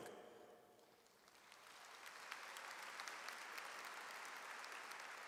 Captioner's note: audience applauds